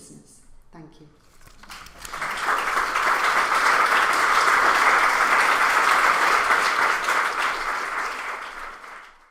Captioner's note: applause